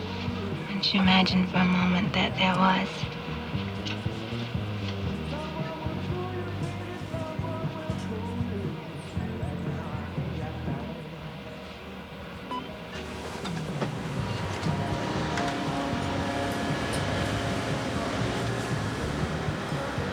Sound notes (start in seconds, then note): 12.2 copier beeps